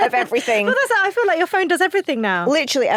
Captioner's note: laughs